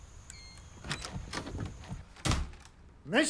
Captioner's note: lock clicks